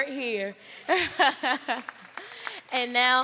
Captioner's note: applause